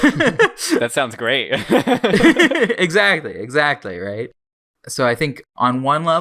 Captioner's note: both laugh